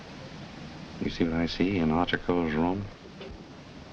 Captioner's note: whispering